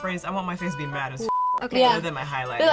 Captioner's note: beep